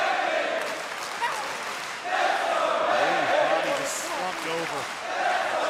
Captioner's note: crowd cheering